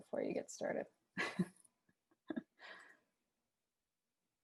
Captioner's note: laughs